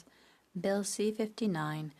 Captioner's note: speaking French